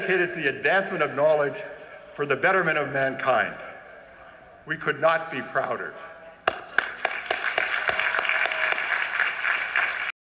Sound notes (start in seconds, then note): 6.4 applause